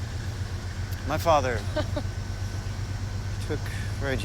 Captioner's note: Laura chuckles